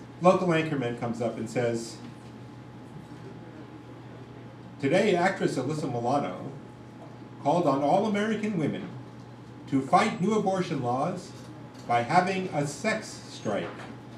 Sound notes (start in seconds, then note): none